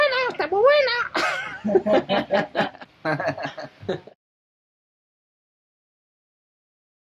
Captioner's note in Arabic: يضحك